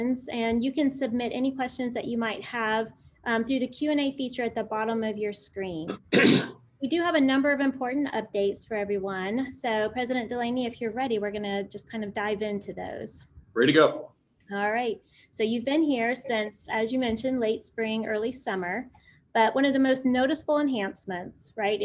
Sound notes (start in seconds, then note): 5.8 clears throat